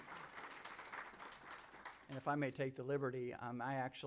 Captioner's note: applause